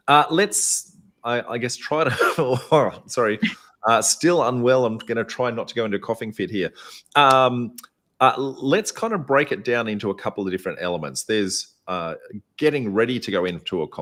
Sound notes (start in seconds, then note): 2.1 cough